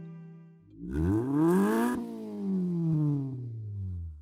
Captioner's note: engine revs